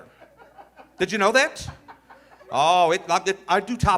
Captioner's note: audience laughing